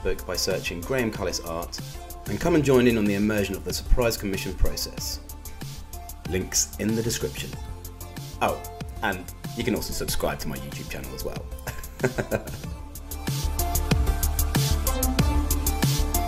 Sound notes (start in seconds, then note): 11.7 laughs; 14.8 upbeat music continues